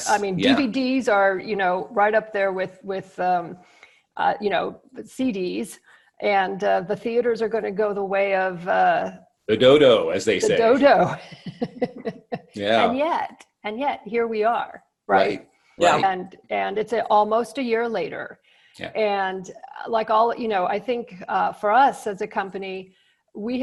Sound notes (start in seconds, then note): 10.2 laughs